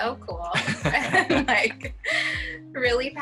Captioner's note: both laughs